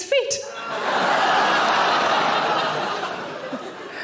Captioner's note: audience laughing